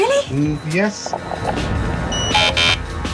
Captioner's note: door opens; buzzer